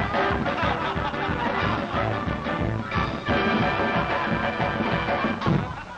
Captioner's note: the crowd laughs at the movie